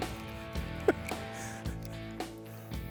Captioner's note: chuckles